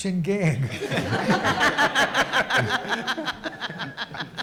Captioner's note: audience laughs